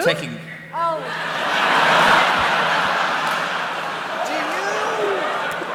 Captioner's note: laughter